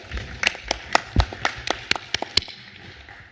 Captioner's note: applause